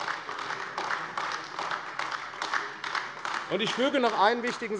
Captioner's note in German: Beifall AfD